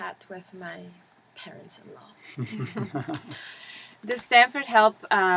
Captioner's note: laugh